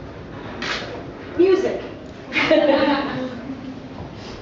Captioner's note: laughter